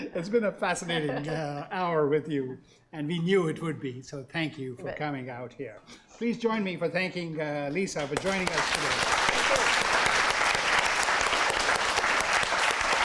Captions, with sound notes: - That's been a fascinating hour with you and we knew it would be, so thank you for coming out here. Please join me for thanking Lisa for joining us today. (crowd applauding)